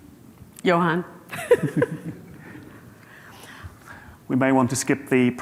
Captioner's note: laughing